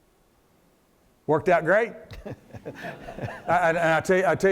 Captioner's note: laughs